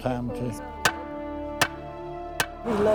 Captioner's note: hammering